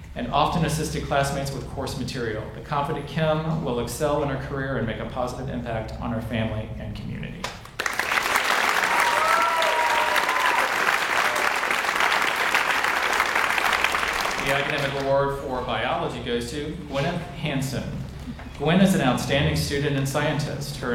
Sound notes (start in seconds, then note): 7.7 audience cheers and applauds